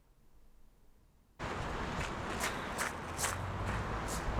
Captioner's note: wind howling